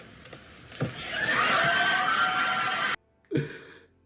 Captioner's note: crowd cheers